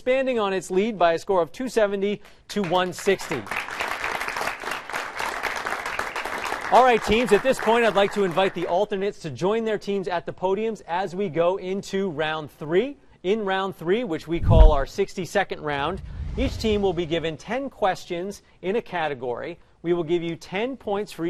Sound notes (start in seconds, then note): 2.6 applause